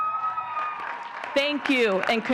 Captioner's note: audience cheering and clapping